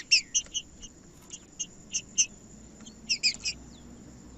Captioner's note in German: trinca ferro cantando